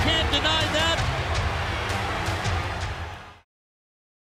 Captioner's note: crowd cheering